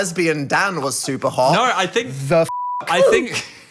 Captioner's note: beeping